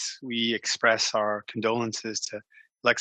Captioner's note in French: voix de l'interprète